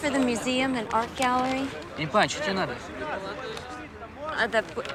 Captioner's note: speaking foreign language